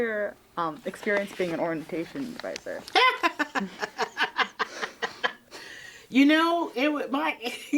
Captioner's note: laughing